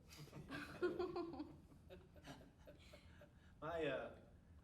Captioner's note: all chuckling